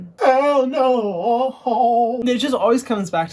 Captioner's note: sing-song tone